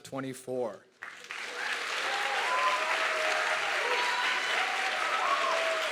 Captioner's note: audience clapping and cheering